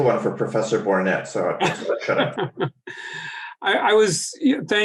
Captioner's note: laughing